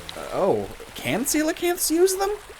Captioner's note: watery clunk SFX